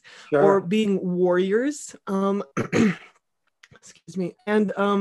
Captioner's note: clears throat